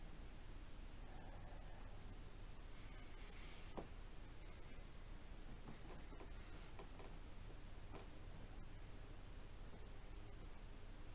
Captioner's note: whisper counting and grunts/sighs of exertion